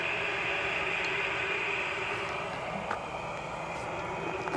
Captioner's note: static buzzing